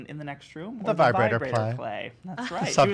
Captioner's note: in Unison